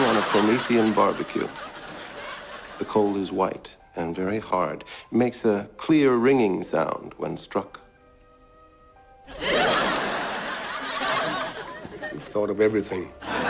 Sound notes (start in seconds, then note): 0.0 laugh track; 9.2 laugh track